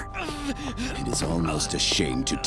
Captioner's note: groaning